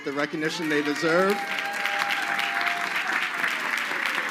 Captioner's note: crowd cheering